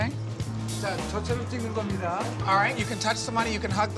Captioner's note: speaking foreign language